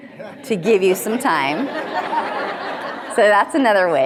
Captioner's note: audience laughing